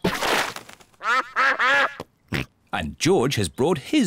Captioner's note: snorts; ducks quack